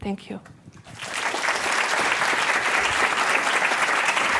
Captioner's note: applause